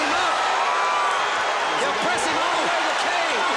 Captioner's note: applause